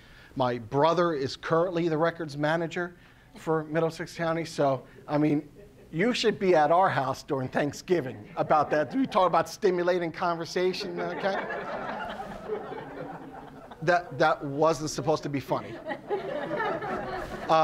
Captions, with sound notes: My brother is currently the records manager for Middlesex County. So, I mean, you should be at our house during Thanksgiving. You talk about stimulating conversation. Okay? (audience laughing) That wasn't supposed to be funny. (laughing continues)